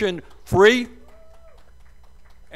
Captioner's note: cheers and applause